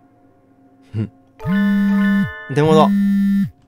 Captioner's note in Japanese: 📲 着信音：ブー！ブー！